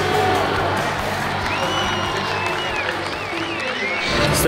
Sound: crowd cheering

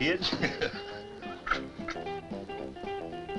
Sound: laughing

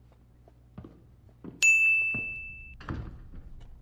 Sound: spooky footsteps

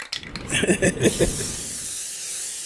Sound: chuckles

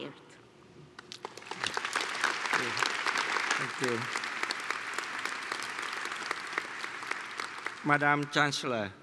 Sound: applause

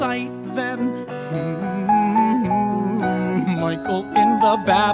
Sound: humming along

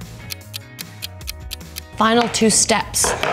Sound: clock ticking

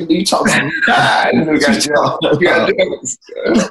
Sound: laughing

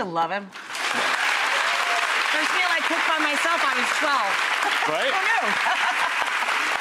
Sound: crowd applauding drowns out speaker

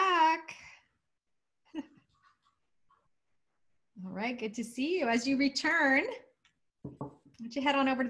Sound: laughter

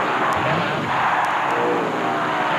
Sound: CARS Racing; fans Cheering; racing Sounds

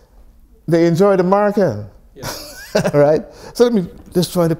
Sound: laughs

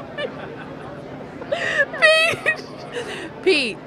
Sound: laughs

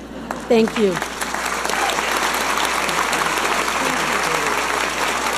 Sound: audience applauding

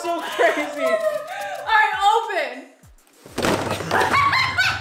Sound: laughs; pants; cackles

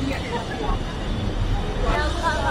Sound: haha

